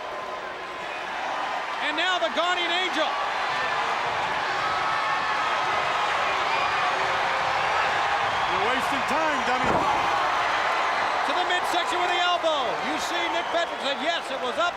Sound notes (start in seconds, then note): 3.2 crowd cheering; 10.8 crowd cheering